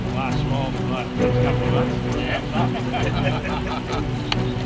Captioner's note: people chattering